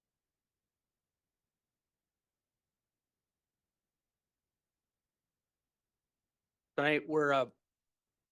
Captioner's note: audio cuts out